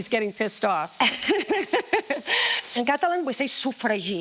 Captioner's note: both laughing